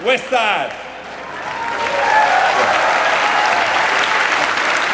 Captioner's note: cheering, applause